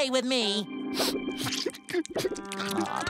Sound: whimpering

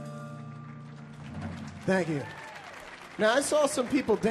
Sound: audience applauding

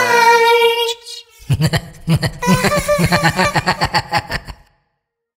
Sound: laughter

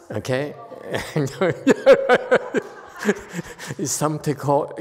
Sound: laughs

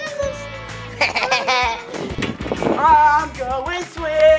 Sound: evil laughing

